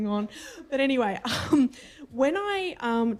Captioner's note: laughter under breath